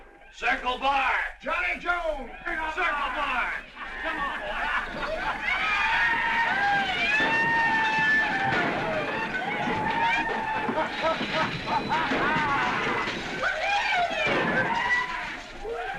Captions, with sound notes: Circle Bar! Johnny Jones! Circle Bar! Come on, boys! [ WHOOPING ]